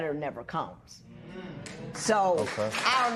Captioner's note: applause